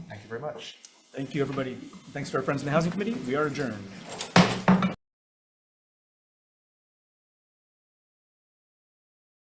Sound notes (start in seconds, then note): 4.3 gavel bangs